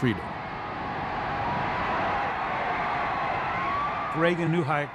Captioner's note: cheering